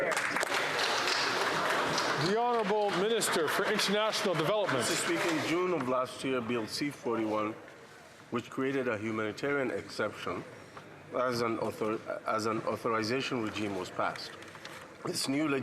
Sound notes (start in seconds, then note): 5.7 some Applause